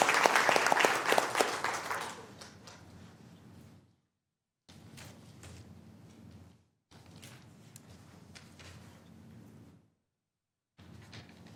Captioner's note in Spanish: aplausos